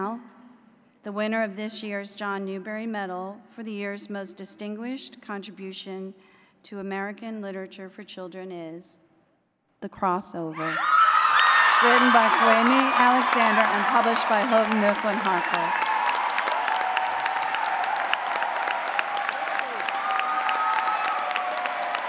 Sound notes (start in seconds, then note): 10.9 cheering; 11.7 applause; 20.7 applause